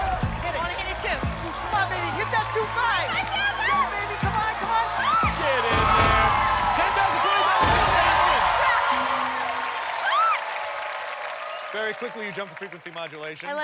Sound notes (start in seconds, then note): 9.2 cheers and applause